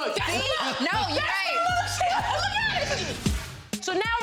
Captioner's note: all talking and laughing